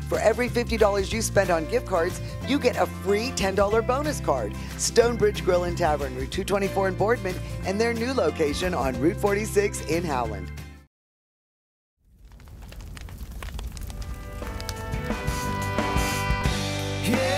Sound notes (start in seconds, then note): 12.0 fire crackling; 14.0 festive music